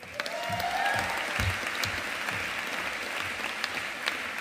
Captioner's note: audience applauding